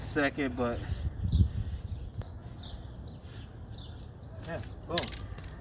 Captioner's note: spray whistling